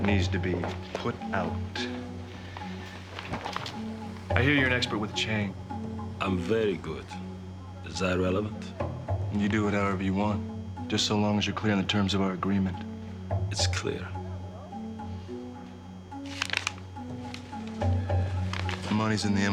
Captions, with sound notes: A fire that needs to be put out. I hear you're an expert with a chain. (Russian accent) - I'm very good. Is that relevant? - You do it however you want. Just so long as you■re clear on the terms of our agreement. - It's clear.